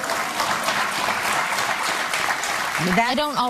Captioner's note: audience clapping